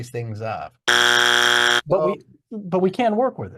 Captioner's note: buzzer buzzing